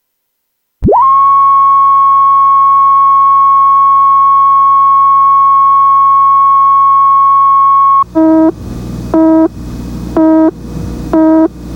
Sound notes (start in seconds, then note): 1.6 static crackling; 8.9 timer beeping